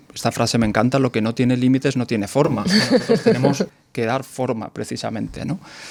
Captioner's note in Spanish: risas